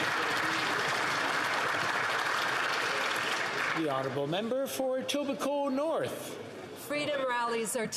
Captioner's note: applause